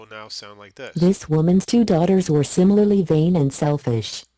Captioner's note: balabolka reads